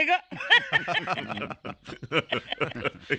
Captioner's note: all Laughing